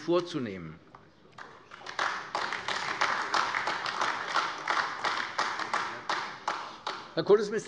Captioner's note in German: Beifall AfD